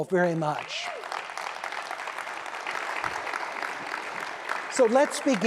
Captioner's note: applause